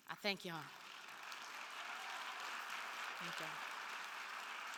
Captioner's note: attendees cheering and applauding